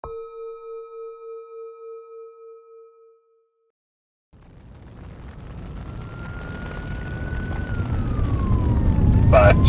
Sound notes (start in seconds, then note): 4.3 flames roaring; 5.6 siren wailing